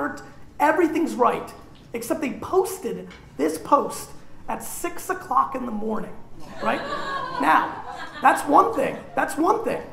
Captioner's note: laughter